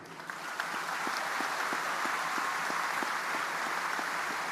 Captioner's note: audience applauding